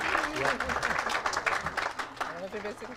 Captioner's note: audience applauds